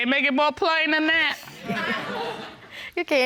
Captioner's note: audience laughing